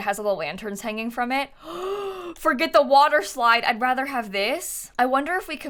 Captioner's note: gasps